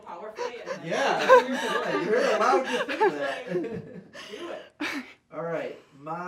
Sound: laughter drowns the speaker

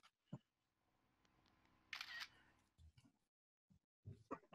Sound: camera click

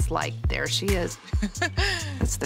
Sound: chuckles

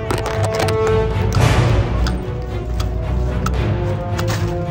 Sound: toy clanking

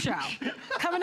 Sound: laughter

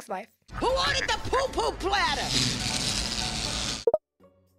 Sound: flies swarm

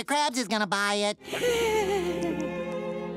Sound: whimpering

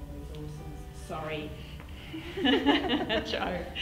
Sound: giggles and moves back into camera view

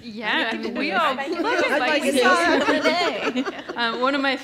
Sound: laughs

